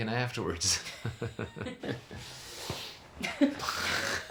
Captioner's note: laughing